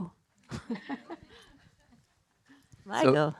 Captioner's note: laughing